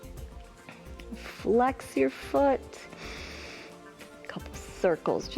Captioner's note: inhales